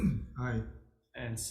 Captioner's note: clears throat